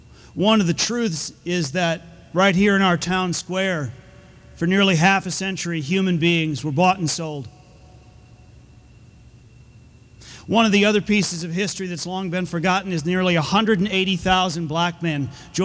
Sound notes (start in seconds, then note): none